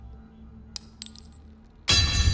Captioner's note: coin tinkling; sinister music